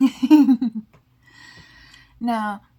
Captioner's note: laugh